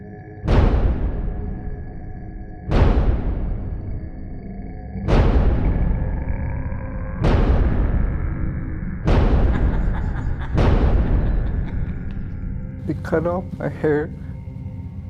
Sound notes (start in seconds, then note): 0.2 intense music; 7.9 intense music continues; 9.4 man laughing